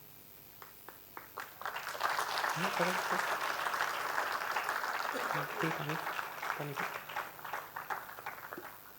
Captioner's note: applause